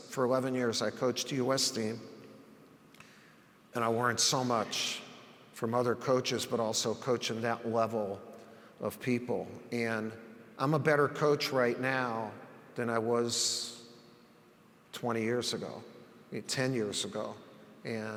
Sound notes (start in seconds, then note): none